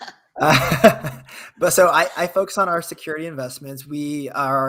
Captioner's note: laughs